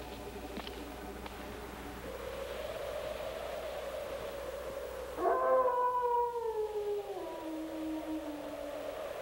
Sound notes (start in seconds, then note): 2.4 wind howling; 5.1 dog howling